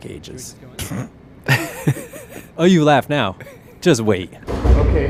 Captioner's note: laughs